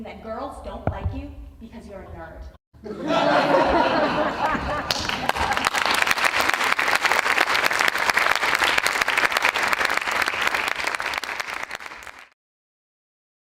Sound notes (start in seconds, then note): 2.8 audience laughing; 3.7 audience applause